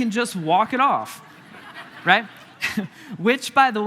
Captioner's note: congregation laughing